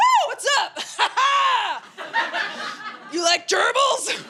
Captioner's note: laughing